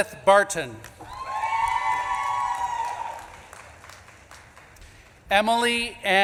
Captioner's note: audience claps and cheers